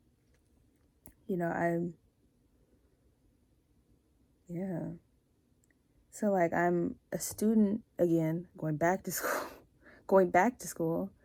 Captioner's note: laughs